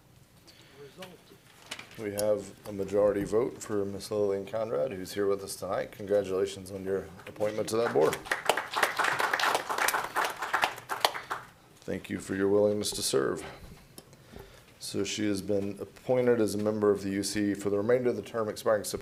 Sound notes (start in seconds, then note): 11.9 applause